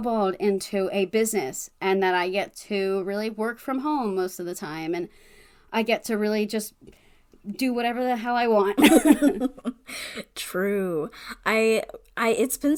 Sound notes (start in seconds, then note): 8.7 laughs